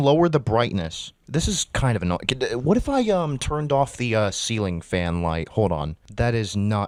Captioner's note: stutters